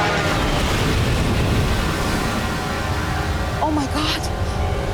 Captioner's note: plane crashing